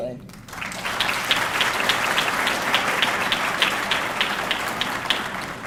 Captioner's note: audience clapping